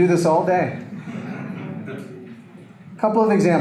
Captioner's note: audience laughter